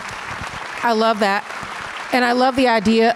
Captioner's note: audience applause